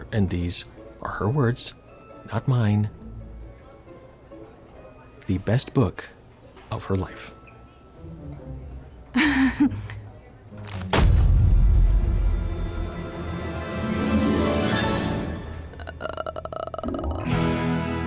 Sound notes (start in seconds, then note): 9.2 nervously giggles; 10.7 books thud; 15.7 groans; 17.2 sleigh bells jingling